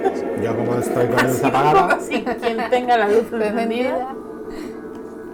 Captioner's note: chuckles